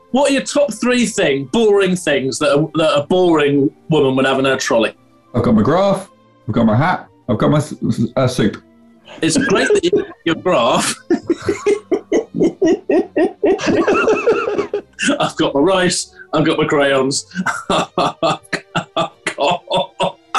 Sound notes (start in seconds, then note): 9.1 giggling; 17.2 laughing